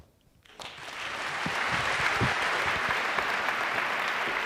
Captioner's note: applause